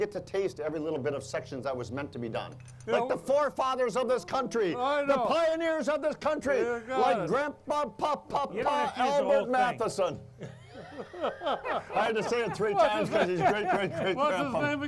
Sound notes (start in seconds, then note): 10.4 all laughing